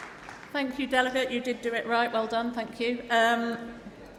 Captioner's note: applause